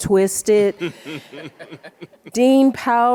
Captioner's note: group laughs